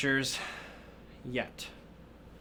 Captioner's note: sighs